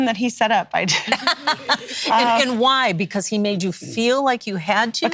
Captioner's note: laughs